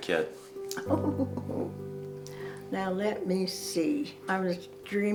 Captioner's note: laughs